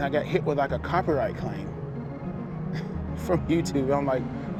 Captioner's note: chuckling